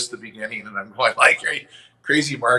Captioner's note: chuckles